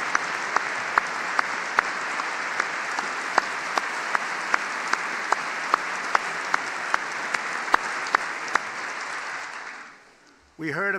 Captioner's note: applause